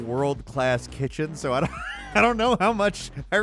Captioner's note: laughs